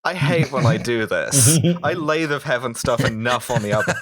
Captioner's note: laughter